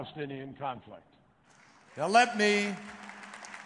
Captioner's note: applause